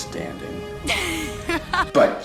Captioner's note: literally laughing in his face